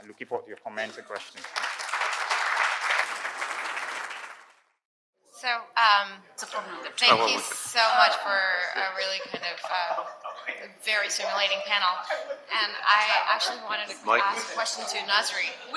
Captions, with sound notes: looking forward to your comments nad questions. (audience applauding) - So, thank you so much for a really kind of a very stimulating panel. And I actually wanted to ask a question to Nazry.